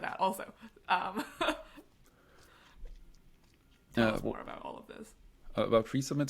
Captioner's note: laughs